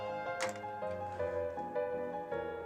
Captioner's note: cards land on table